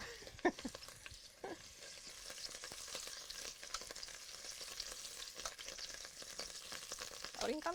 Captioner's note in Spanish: chisporroteo